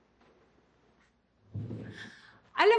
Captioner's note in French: scoffs